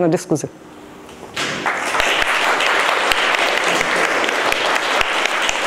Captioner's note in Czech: potlesk